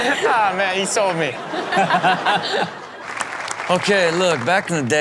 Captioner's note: laughs